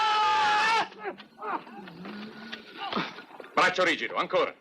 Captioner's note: man yells; grunting